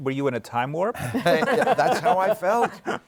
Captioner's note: laughter